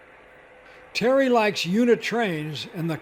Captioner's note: voiceover